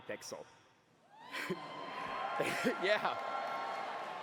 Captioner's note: cheering